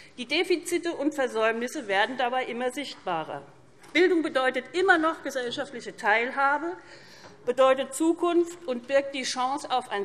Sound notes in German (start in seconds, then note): none